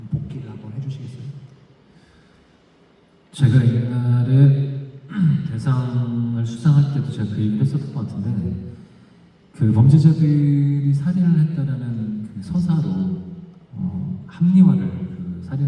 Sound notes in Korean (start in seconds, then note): 5.1 목을 가다듬음